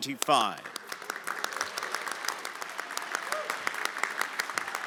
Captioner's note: everyone applauding